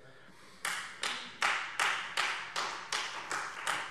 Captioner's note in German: Beifall Freie Demokraten